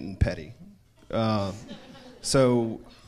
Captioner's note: crowd laughs